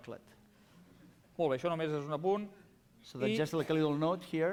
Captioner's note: non-english speech